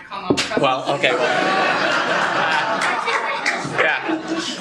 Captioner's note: laughter